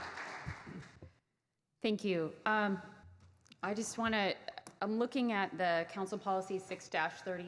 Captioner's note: clapping